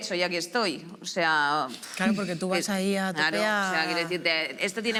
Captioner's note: snort